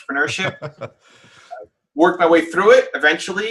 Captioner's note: laughs